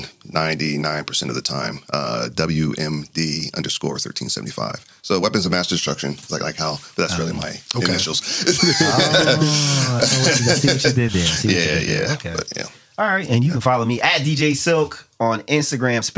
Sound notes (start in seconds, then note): 8.3 laughter